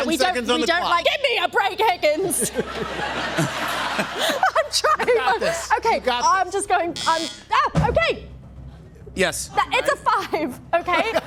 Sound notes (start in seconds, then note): 2.3 laughter; 6.6 buzzer